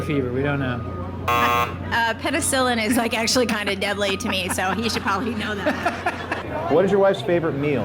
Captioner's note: laughs